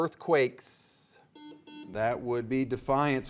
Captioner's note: buzzer beeping